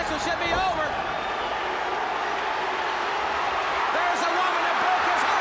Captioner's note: crowd chatter